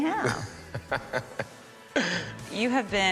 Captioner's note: laughs